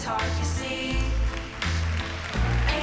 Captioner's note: applause